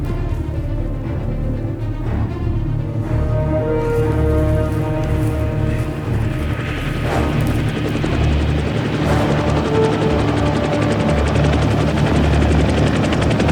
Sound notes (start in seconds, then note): 6.7 helicopter whizzing